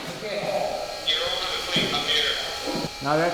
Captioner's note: workers conversing